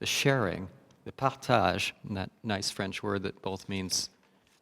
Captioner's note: speaking french